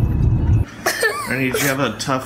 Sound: child crying

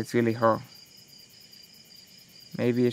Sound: insects chirping

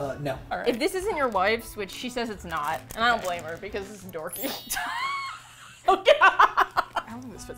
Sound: both laugh

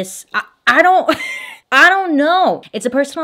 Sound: scoffs

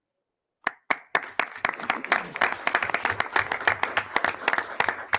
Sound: audience applauding

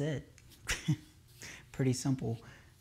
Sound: chuckle

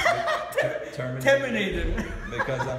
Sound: giggles; chuckles

